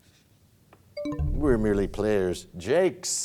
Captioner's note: bell chimes, time expires